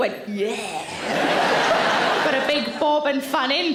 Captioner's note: audience laughs